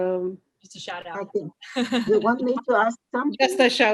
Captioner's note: laughs